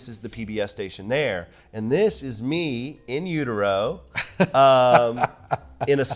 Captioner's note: laughing